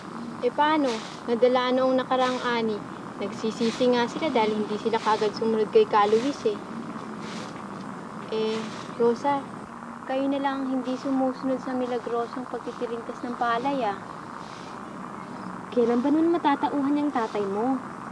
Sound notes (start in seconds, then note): 8.3 scraping continues